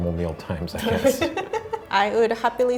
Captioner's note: laughing